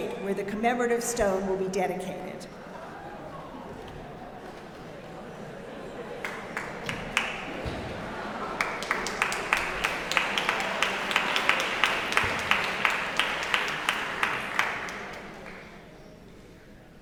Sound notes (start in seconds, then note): 3.0 audience laughing and chatting; 9.4 audience applauding